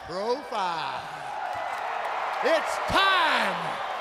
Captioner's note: crowd cheering